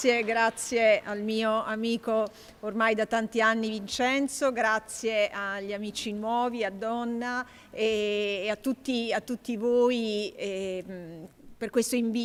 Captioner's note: speaking italian